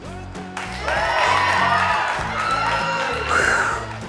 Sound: audience cheering

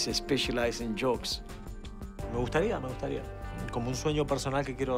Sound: Martinez speaking Spanish

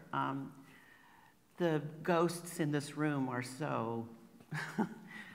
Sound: laughs

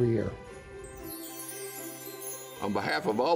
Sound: transition chiming

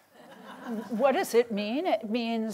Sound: laughter

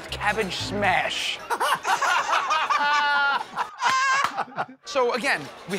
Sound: laughter

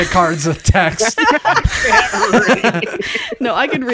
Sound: laughing

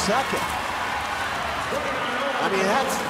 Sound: audience cheering

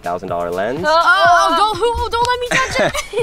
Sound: girls exclaim loudly

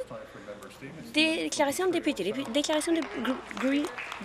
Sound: some Applause

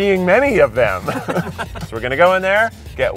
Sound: guys laugh

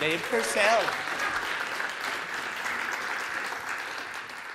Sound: audience clapping

